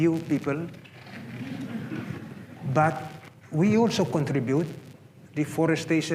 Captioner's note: laughter